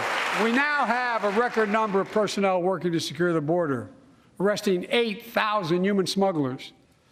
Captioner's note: applause